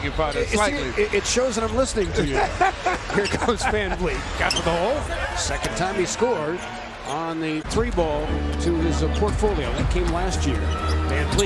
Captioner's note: laughs